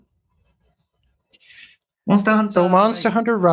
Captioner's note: speaking japanese